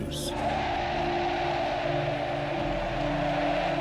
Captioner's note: crowd cheers